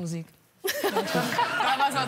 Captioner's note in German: Gelächter